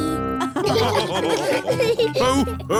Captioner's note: all laughing